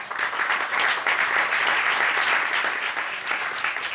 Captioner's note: audience applauding